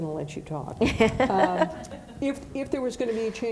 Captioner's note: laughing